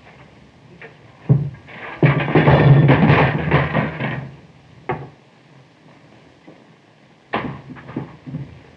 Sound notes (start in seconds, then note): 1.7 clanking